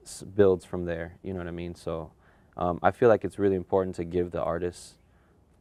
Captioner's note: none